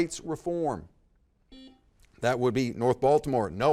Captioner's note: buzzer dings